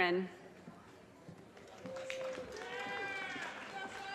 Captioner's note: audience cheers and applause